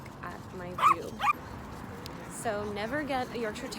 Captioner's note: dog barking